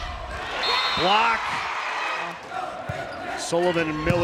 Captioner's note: players yelling; whistle blowing